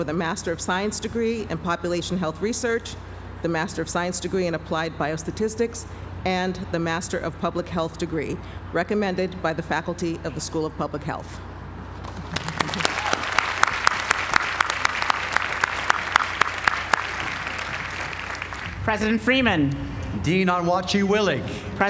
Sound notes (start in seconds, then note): 12.0 applause